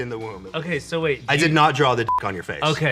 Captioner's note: beep